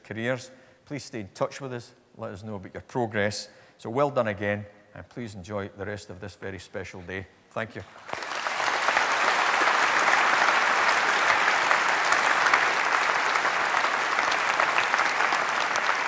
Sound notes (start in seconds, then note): 7.8 applause